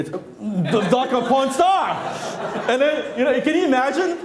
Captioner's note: laughing